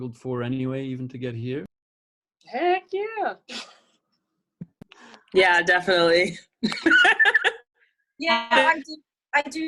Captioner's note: laughs